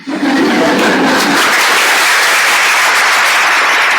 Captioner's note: audience applauds